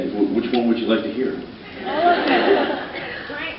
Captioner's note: laughs